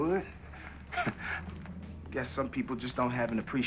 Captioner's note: chuckles